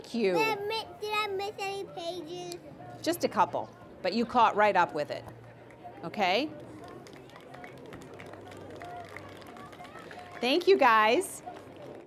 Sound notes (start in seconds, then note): 6.7 applause